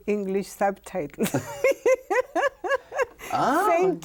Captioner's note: laughs